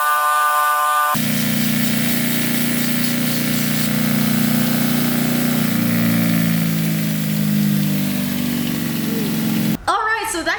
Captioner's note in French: rumbling